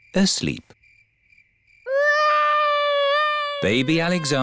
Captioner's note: baby alexander crying